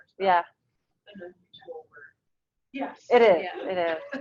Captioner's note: speaking away from mike